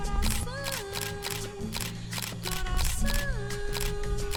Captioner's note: more Camera Sounds